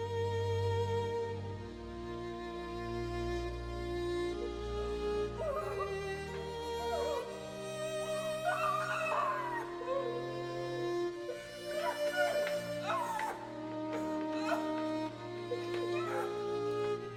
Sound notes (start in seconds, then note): 5.3 Mrs. Hill whimpers; 5.3 muffled cry out